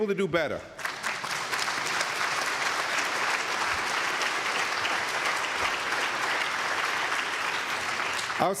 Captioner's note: applause